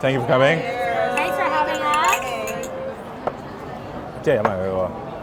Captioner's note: glass clanks; speaks in foreign language